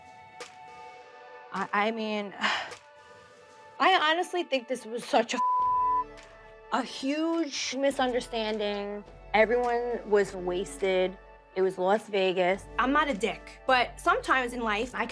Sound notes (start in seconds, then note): 1.5 upbeat music; 5.4 beep